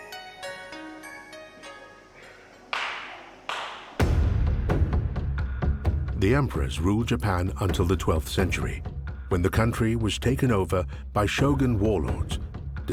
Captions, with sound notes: (worshiper clapping) (dramatic music) The emperors ruled Japan until the 12th century when the country was taken over by shogun warlords